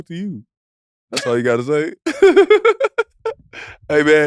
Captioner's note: laughs